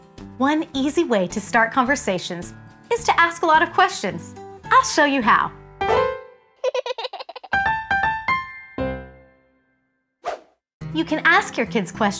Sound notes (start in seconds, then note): 5.6 piano roll; 6.6 baby giggles; 7.5 piano plays